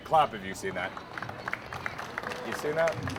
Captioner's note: audience clapping